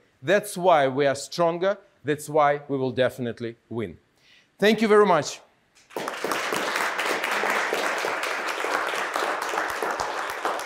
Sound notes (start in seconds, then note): 5.8 audience applauding